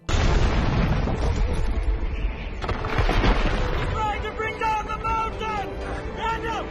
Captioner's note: rocks fall